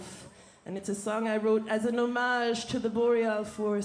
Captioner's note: speaking French